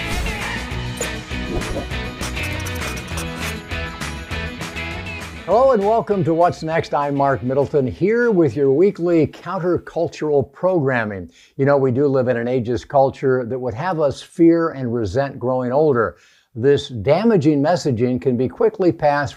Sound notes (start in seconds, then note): 0.0 upbeat music continues; 1.2 text chimes; 1.2 graphic whooshes; 2.2 pencil scratches; 3.8 upbeat music continues